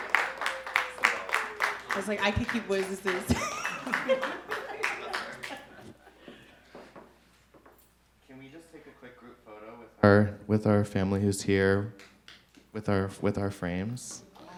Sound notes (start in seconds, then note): 3.2 laughs